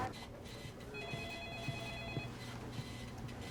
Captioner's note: telephone rings